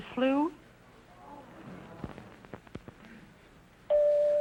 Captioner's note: audience moaning; chime rings